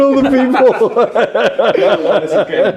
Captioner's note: all laughing